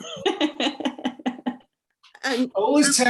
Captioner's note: laughs